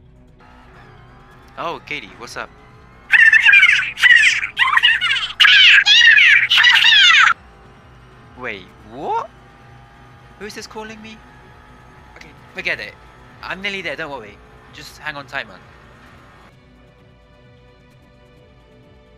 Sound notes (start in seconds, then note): 0.5 Alpine VGT Race engine sound; 1.8 on phone; 8.7 on phone; 10.6 on phone; 12.7 on phone